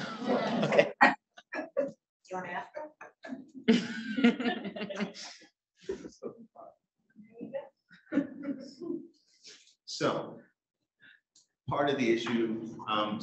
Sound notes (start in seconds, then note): 0.0 audience laughing; 3.2 laughing; 8.1 audience laughing